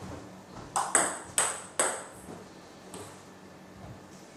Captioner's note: balls ping pong hitting